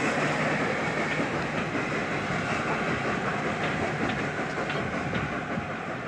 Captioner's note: train passes